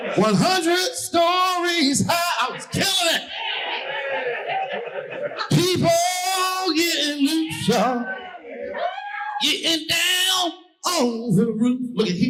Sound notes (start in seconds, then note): 3.9 audience laughing